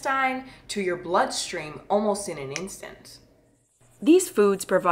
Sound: snaps

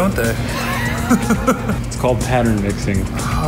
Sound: laughing

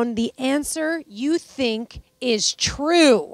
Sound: none

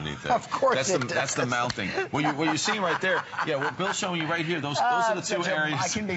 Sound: laughter

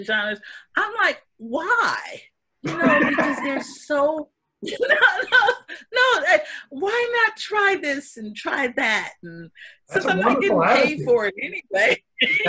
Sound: laughter

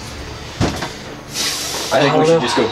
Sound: deep breath

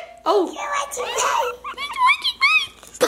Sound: laughter

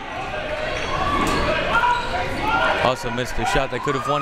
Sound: crowd members shouting

